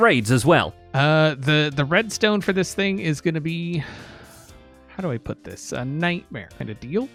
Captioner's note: sighs